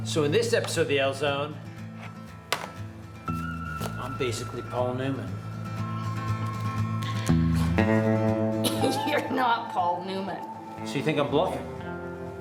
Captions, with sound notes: So in this episode of The ELL Zone, I'm basically Paul Newman. [Wild West Music] [Laughter] You're not Paul Newman. So you think I'm bluffing?